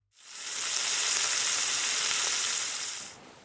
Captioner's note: sizzling sound